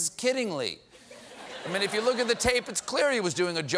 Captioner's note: laughter